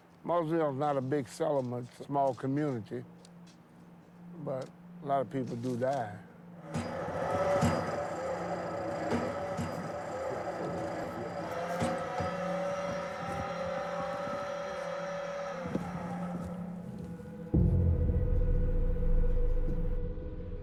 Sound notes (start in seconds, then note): 6.6 machine rumbling; 17.4 dramatic eery music